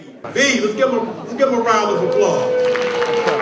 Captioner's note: crowd cheers